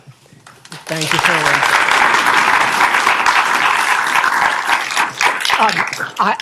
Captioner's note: audience applauding